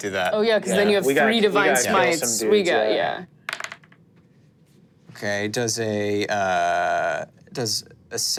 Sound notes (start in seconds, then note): 3.5 dice rolling